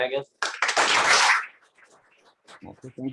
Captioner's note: applause